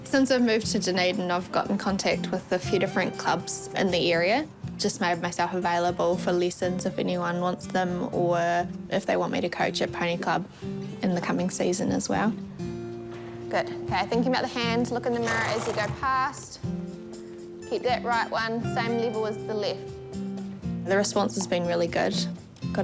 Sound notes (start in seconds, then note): 15.1 horse snorts